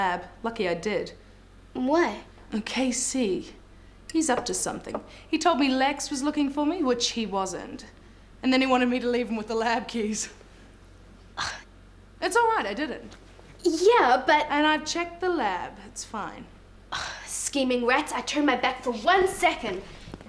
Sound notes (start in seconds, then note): 11.4 scoffs; 17.1 scoffs